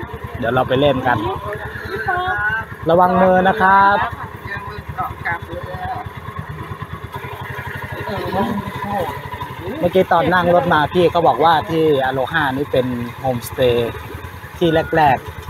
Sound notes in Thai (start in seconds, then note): 4.7 เสียงหัวเราะ